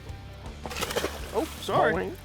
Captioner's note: water splashes